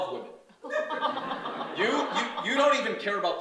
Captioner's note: audience laughs